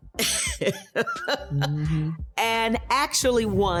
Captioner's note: laughing